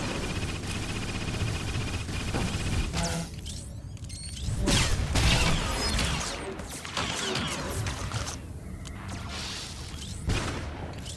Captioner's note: gunfire